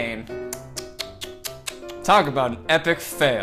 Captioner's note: tsking